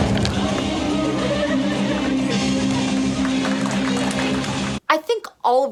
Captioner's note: applause